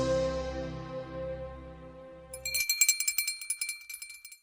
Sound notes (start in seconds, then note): 2.3 bell ringing